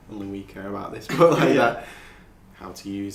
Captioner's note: laughing